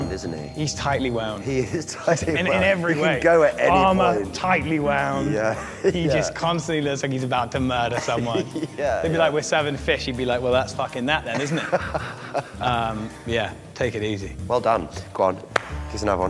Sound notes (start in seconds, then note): 5.4 chuckles; 7.9 laughs; 11.3 laughs; 15.5 claps